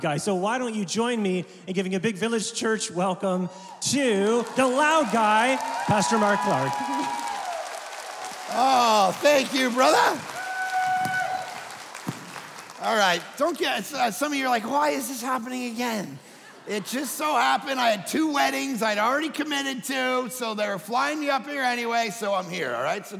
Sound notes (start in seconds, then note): 6.7 audience clapping; 11.4 audience cheering and clapping